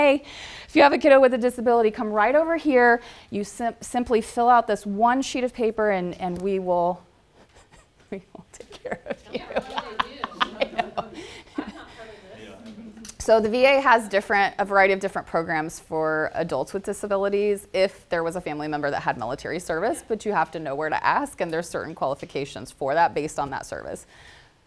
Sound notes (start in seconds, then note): 8.6 laughter